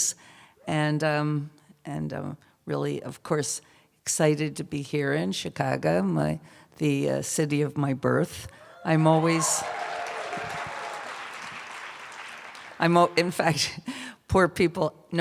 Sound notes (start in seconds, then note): 8.6 cheers and applause